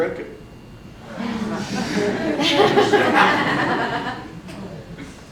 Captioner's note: audience laughs